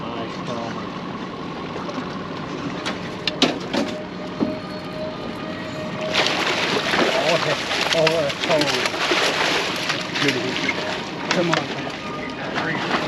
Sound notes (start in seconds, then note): 1.5 fish splashing; 7.3 reel cranking; 8.2 horn blaring; 9.3 fish splashing